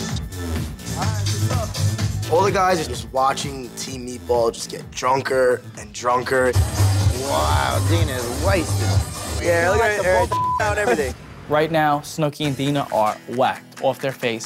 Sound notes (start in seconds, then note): 10.2 beep